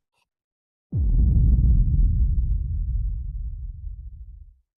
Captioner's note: explosion